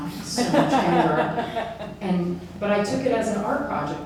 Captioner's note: audience laughs